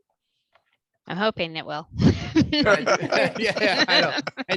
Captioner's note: laughter